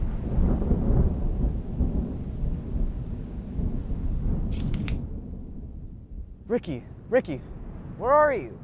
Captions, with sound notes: (thunder rumbling) Ricky, Ricky, where are you?